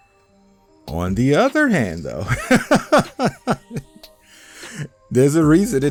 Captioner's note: laughing